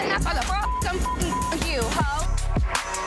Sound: beep

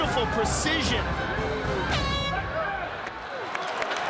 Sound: cheering

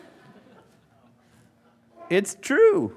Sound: laughing

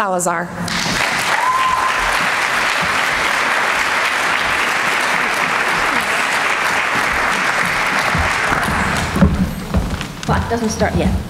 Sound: applause

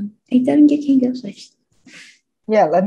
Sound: speaking in a foreign language

